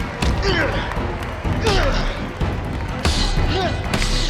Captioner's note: grunting